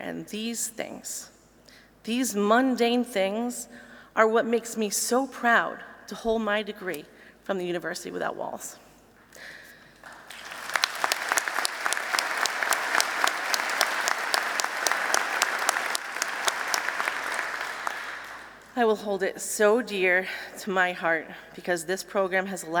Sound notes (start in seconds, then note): 10.0 applause